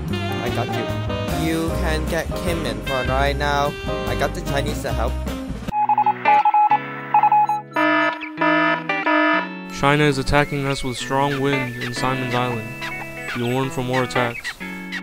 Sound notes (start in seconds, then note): 5.7 morse code; 7.5 alarm